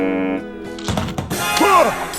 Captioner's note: sobbing